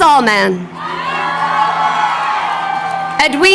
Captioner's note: crowd cheering